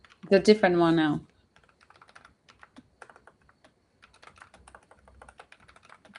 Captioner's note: typing